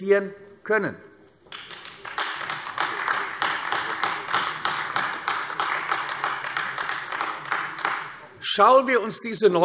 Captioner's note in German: Beifall AfD